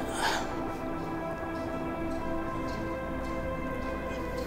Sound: sobs softly

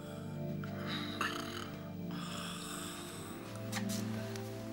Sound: snoring lightly

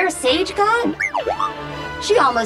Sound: beeping

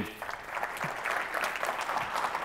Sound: applause

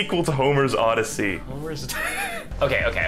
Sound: wheeze

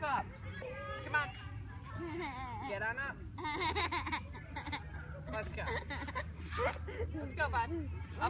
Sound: keeps laughing

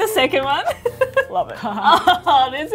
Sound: laughs

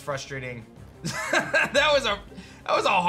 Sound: laughs

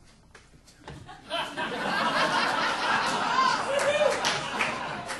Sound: audience laughing

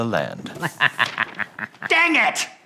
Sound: evil laugh

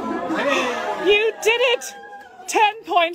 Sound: gasp

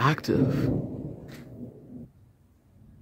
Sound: thunder rumbles

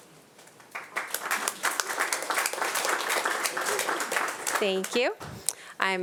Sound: audience applauding

